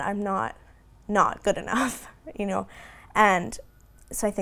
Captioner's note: giggling